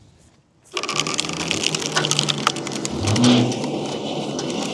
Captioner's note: machinery humming